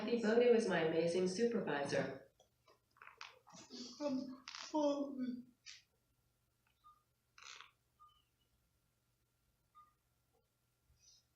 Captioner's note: long pause